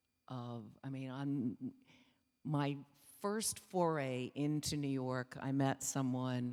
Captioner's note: speaking foreign language